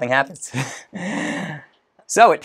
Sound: laughs

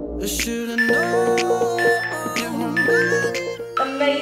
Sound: beeping sound

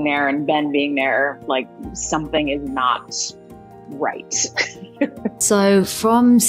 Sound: laughing

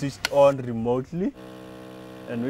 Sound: air pump whirring

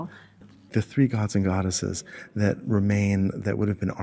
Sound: voiceover

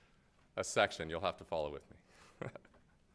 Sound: laughs

